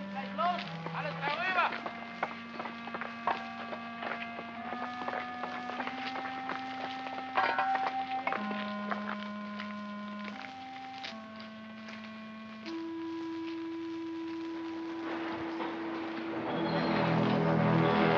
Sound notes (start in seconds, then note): 0.0 melancholy music; 0.2 foreman shouts in German; 2.5 melancholy music; 2.5 sounds of tools chipping; 8.6 footsteps crunching; 8.6 melancholy music; 15.8 sinister music